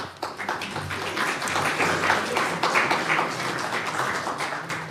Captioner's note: audience applauds